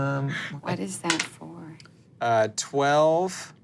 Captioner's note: dice rolling